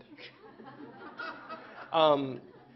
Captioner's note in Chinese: Laughter; 笑聲